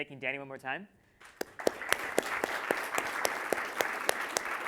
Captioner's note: audience applauding